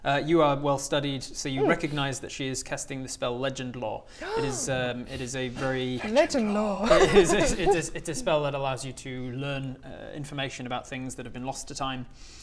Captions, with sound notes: You are well studied so you recognise that she is casting the spell legend lore *gasp* It is a very Legend lore! It's a spell that allows you to learn information about things that have been lost to time